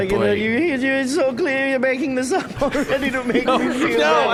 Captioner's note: hysterical noises; laughing